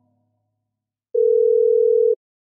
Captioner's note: phone ring